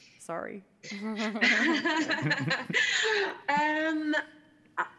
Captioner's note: participants laughing